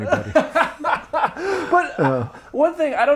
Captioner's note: laughing